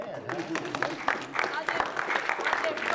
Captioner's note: applause